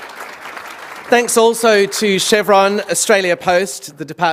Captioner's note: applause